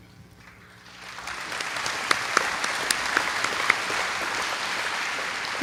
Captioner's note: applause